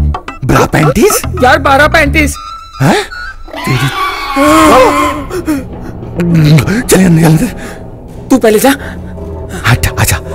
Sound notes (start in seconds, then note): 3.4 Scream; 4.0 Whimpering